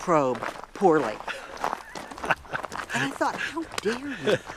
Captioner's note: laughs